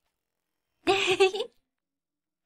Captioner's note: chuckles mischievously